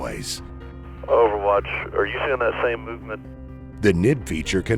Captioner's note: radio audio